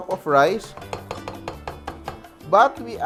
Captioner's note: knock